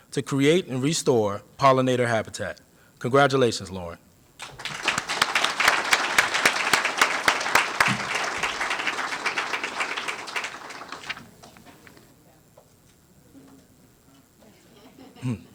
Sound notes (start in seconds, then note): 4.4 applause